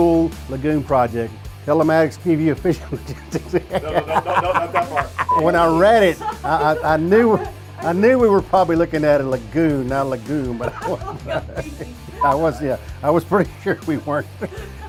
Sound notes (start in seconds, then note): 2.8 laughing; 5.2 production beeps; 5.9 off-camera person exclaiming and laughing; 10.3 laughing; 14.2 laughing